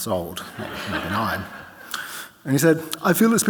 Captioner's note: audience laughing